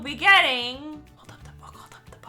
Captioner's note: whispering